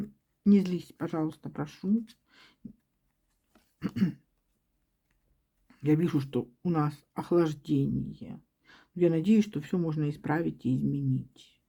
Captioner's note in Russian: откашливается